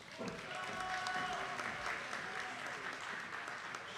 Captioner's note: attendees clapping